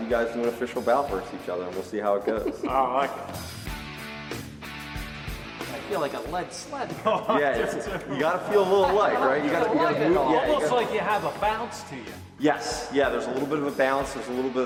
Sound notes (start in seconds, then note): 2.0 laughing; 6.9 laughter